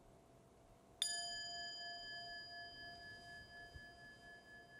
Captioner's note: chime